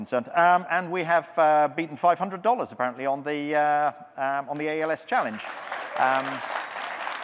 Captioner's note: audience clapping